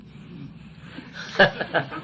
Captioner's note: laughs; laughter